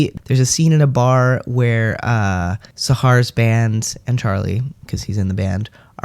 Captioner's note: none